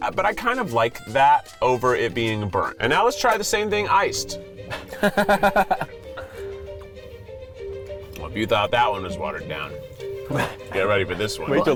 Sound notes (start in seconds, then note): 4.6 laughing